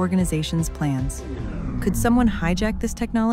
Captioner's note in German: Elektrizität summt